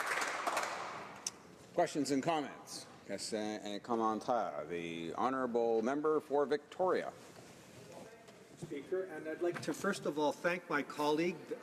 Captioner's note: applause